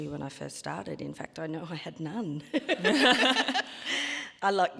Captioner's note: laughs